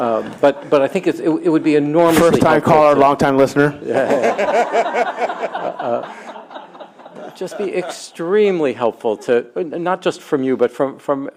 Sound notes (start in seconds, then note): 3.8 laughter